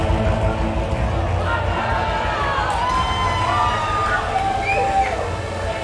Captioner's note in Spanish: Gritos